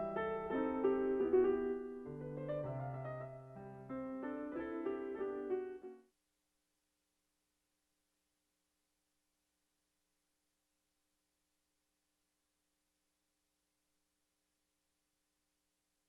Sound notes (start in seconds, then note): none